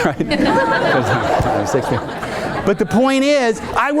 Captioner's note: audience laughing